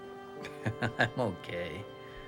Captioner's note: Mark laughs